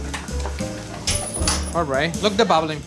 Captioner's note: gentle music; cover clatters